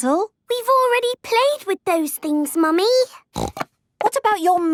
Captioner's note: snorting